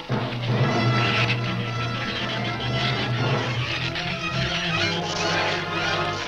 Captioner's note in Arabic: ثرثرة الزبابة; موسيقى أوركسترالية درامية